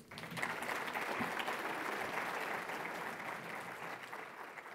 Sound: audience applauding

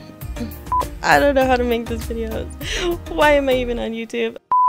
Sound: beep

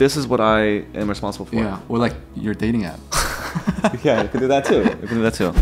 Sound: both laugh

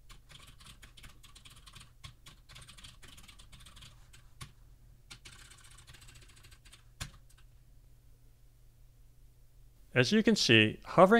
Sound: typing sounds

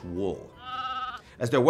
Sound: sheep bleats

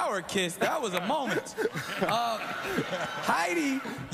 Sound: laughs

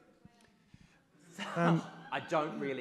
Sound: audience laughs

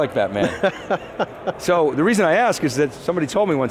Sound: chuckles

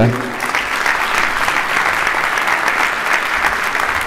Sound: applause

